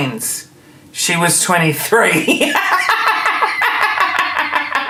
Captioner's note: laughing